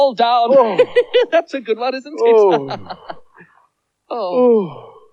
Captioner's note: singing; laughs